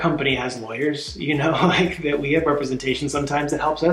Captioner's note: laughing